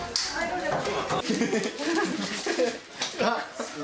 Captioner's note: indistinct chuckling